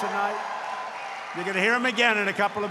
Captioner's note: applause